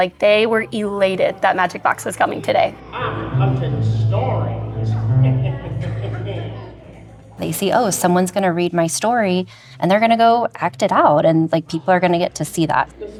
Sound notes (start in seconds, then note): 5.3 laughs